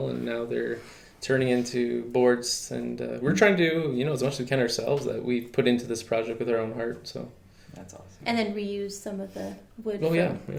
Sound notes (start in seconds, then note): none